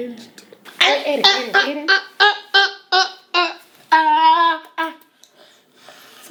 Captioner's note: whining